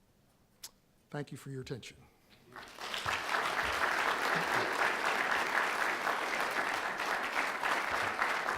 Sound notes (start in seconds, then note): 2.5 audience applauding